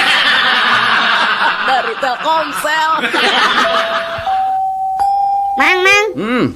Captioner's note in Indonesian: tertawa